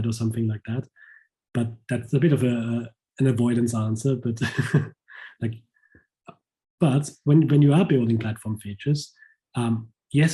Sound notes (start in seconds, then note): 3.9 chuckles